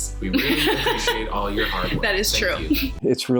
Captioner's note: laughs